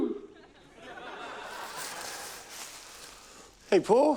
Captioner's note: laughter